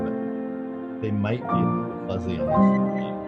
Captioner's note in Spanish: speaks faintly